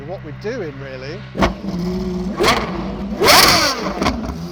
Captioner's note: engine revs